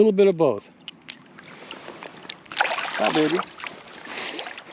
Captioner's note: fish splashing